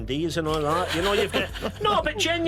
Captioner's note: laughter